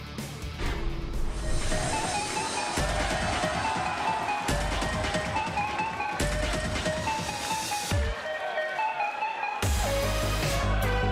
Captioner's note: crowd cheering